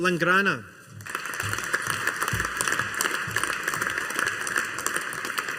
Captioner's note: audience applauding